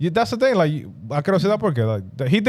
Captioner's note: speaking In Foreign Language